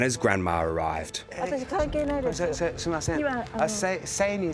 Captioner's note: grandma speaking Japanese; speaking Japanese